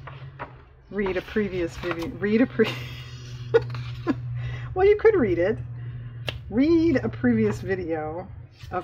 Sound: laughs

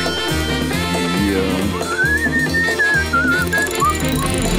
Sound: whistling; dinging

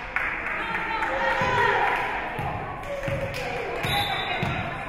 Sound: spectators shouting encouragements; whistle being blown

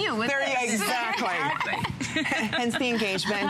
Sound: laughter

